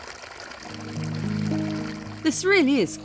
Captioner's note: water flowing